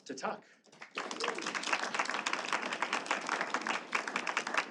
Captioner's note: participants clapping